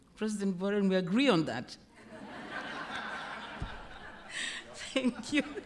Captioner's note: laughter